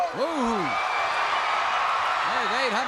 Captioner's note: crowd cheers